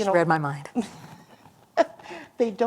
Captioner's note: laughter